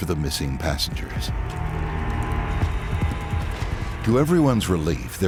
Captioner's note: humming